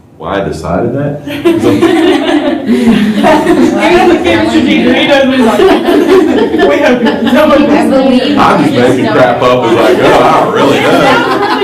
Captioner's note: laughter